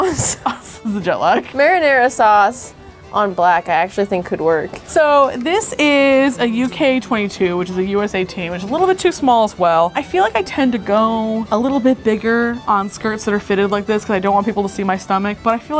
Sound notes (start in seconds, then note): 0.0 laughs